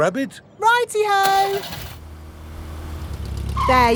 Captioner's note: car engine starts